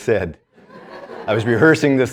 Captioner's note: students laughing